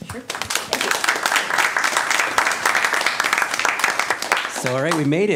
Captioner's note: applause